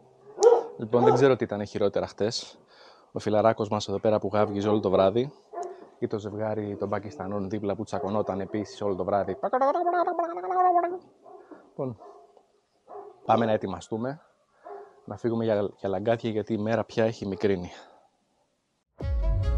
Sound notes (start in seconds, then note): 9.4 sound of angry Pakistani